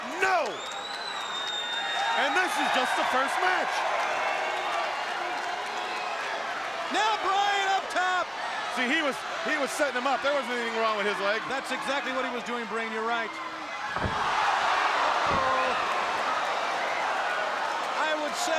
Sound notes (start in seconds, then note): 4.0 crowd cheering